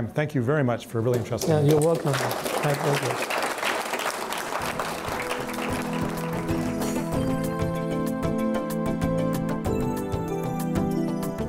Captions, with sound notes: Thank you very much for really entrusting us. - You're welcome, my pleasure. (applause) (techno music)